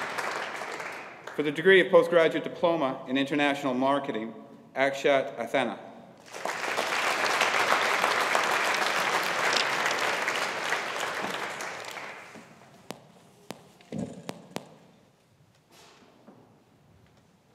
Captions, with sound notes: For the degree of Postgraduate Diploma in International Marketing. Akshat Asthana. (AUDIENCE APPLAUDING)